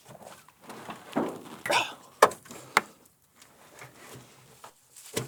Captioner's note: exhales